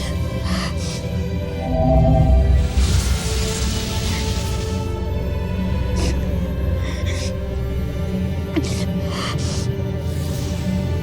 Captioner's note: sobbing; sparkling whoosh